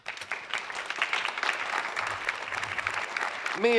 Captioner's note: applause